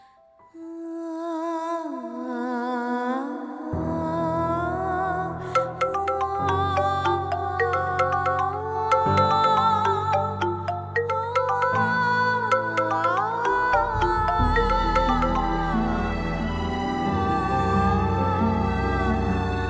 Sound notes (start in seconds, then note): 0.2 gloomy music playing; 5.2 mobile phone chimes; 17.2 gloomy music playing